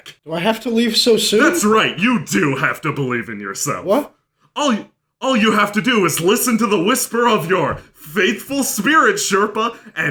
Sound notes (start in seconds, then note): none